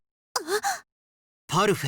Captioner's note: gasp